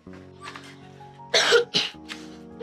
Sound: coughs

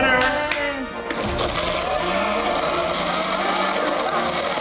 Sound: triumphant music; clap; blender whirs

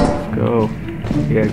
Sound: quietly

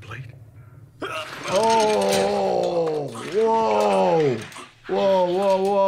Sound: metal clangs

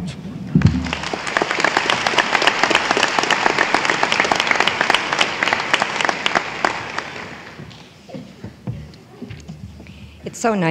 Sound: applause

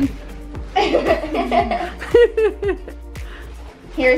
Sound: laughter

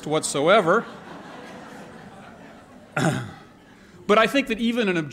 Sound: laughter

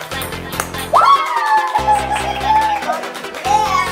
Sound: cheering

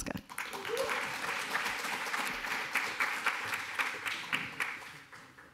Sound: applause

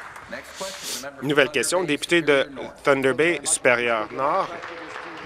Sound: applause

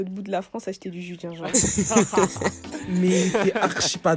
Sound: laughters

